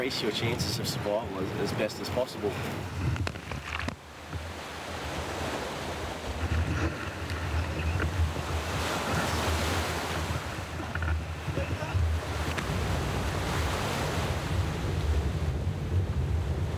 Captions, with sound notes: your chances of survival as best as possible. [sound of wind and waves]